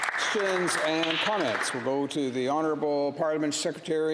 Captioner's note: applause